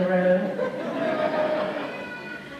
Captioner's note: laughter